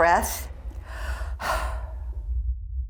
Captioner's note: deep breath; intense rumbling